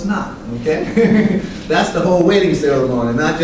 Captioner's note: laughter